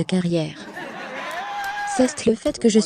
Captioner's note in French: Rire de la foule